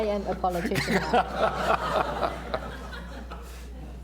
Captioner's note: laughter